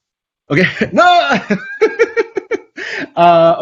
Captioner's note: both laugh; screams